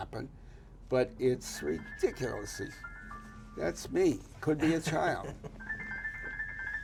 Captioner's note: phone rings